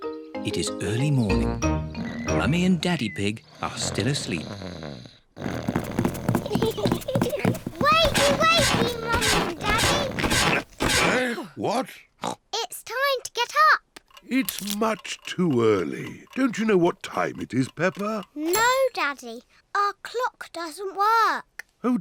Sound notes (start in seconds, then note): 5.2 snores; 6.1 both giggle